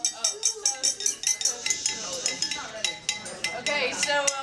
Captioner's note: glasses clinking